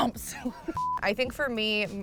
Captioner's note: laughs